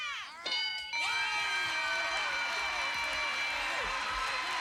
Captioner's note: cheers